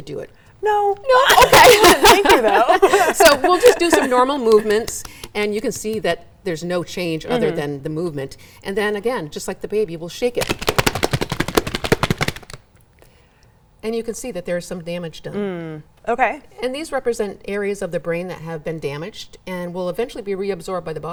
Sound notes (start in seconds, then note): 1.0 laughs loudly; 10.4 shakes loudly